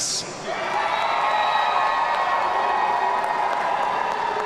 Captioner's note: audience cheering